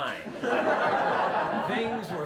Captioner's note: laughter